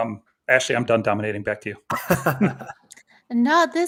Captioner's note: laughs